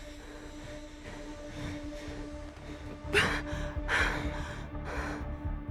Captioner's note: panting